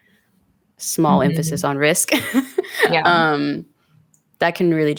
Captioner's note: laughs